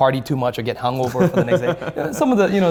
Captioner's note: laughs